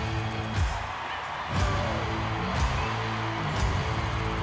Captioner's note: crowd cheering